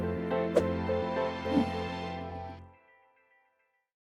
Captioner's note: logos whooshing